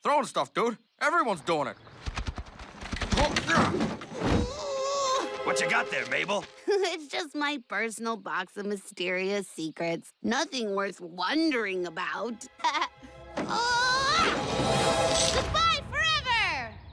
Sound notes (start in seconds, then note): 4.4 grunting; 6.9 chuckles; 12.5 laughs, grunts